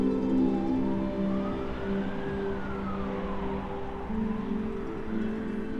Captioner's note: siren wailing in the distance